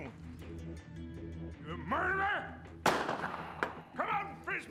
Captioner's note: fires another gunshot in air